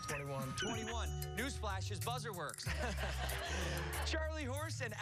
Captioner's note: laughter